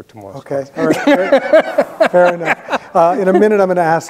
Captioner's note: both laughing